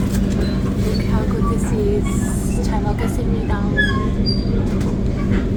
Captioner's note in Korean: 한국어로 말하며